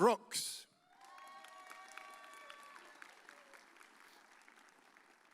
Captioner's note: audience cheers